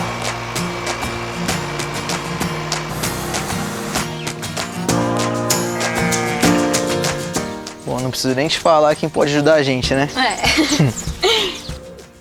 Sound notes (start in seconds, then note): 2.9 nature sounds; 10.1 Dininha laughs